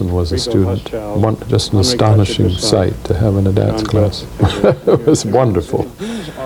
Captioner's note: laughs